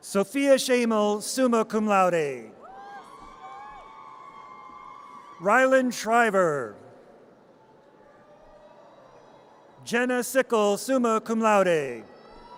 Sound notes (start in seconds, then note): 2.7 audience cheers; 12.3 audience cheers